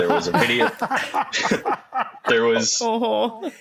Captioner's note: laughter